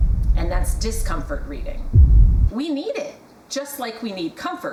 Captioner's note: soft, dramtic boom